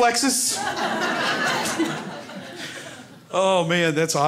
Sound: crowd laughs

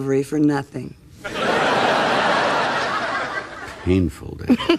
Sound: audience laughing

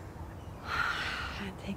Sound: exhales

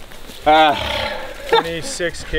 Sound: laughs

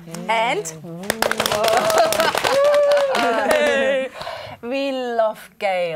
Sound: clapping on legs

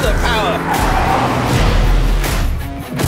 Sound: car sounds; rock music plays

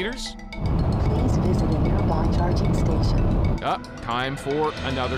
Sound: car notification

